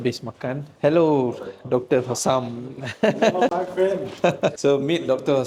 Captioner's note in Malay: ketawa